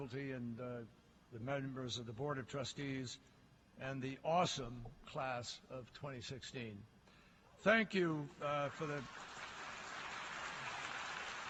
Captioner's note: applause